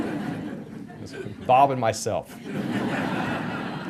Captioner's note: audience laughter